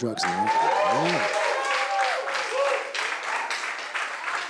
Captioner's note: cheering